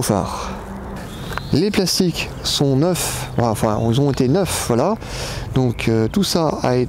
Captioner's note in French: moteur